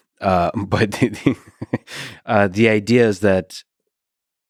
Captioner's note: laughs